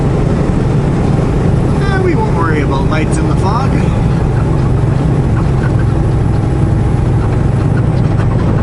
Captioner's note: plaintive tone